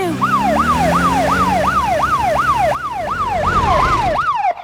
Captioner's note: siren